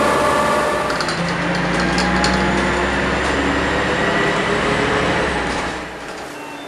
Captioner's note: Volvo Olympian 3-axle running but from behind; Leyland Olympian 3-axle accelerating; BUS STOPPING bell